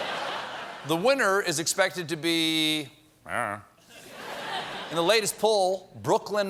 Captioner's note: laughter